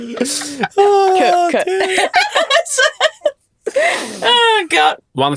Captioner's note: group laughs